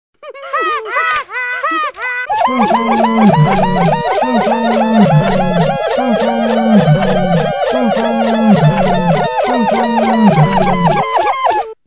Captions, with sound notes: haha (haha) h̨̧̾̽̓͆̓̽̉̌͐̑̅͌̽̅̆̚҉̡̗̺̜̪̺̼͈̳̞̳̫̰̗̭â͊͂ͨ̋̒҉̵̮̞͕̫͈̫̜͈̬̳̣͓͔͟h̸̨̬̩̼͓̘͖͇̳̰͂ͬ͛ͩ͐̀̋͛ͣ͝a̷͍̝͍͇̺̮̩̰̻̮̩̫̟̳͎͈͒ͯ̔͂̏̃͐͊̽̐ͥ͗͌́͢͟ͅh̸̴̳̟̤̥͐̆ͪ̆̈̄̓ͩą̵̢̩̪̫͎̲̼͍̲̤̟̭͉̭̝͕̗͒̓͋͋̃̎ͮ́̀͢h̸̶̟͕̘̭̹̐ͬ̅ͯ̐̇ͭ͌͡á̴̯̠̤̦͚̣͖̮̣̱̦̐̐̏̈́̓h̺̻͔̬͇̬̤͇͓̜̪͖̺̻͂͑̔ͯͦ̌̓̄̚͢͢͞͠á̡͎̝̹̩̺̔ͯ̓ͫ̔̔ͦ̃ͪͭ̄ͣ̿̎͜͟͝͞ḩ̫̱̱̣̭͔̺̰̟̑ͯͬ̔ͦ̐͐ͫͬ͆ͩ̊̏ͪ̌͐́̍̕͡a̡̼͚̝͎͓̠̬͈̗͇ͬ̏̇̐̎̀͞h̵̼̞̤͔͉̙̩͎̲͈͈͚̐͒͂̄ͨͪ͊̈͌̓͜ā̰̰͍̳͙̟̖̖̪̙̗̲͎̌̿ͣ̿͗̄̂̏̓͌͋̿̚͜͡ͅh̦̰̤̬͈̺͚͖͓͖͙̹̗̤̓̐ͫͯ̅͐́͛̀ͨͤͪh̶̡̖̺̙̥͈͇̯̬ͦ͛̎͑ͧͭ̎̀͠a̳̹̮̖̞̘ͧ̽̿̑͟